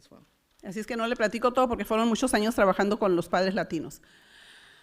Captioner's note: foreign language